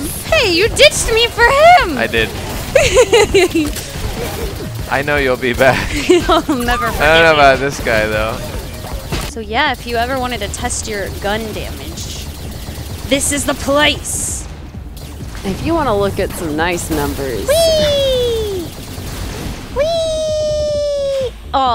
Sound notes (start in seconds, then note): 2.6 gremlin alien laughter